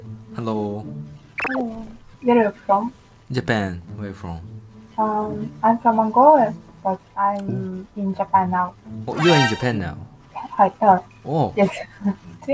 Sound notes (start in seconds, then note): 10.4 japanese & Russian